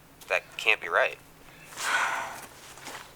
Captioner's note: sighs